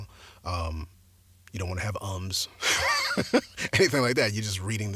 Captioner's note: laughs